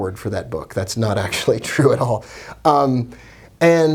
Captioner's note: laughs